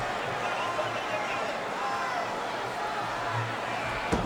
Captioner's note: crowd murmuring